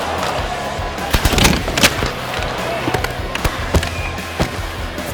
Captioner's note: cheers and applause; crashing